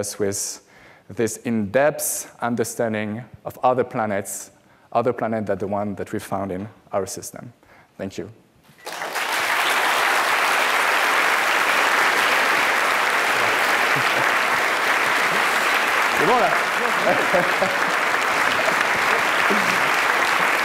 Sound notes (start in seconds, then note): 8.3 applause